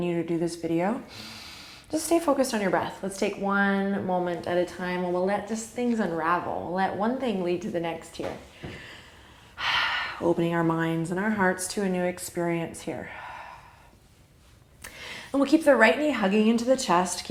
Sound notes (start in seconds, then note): 1.1 deep inhale; 8.6 deep breathing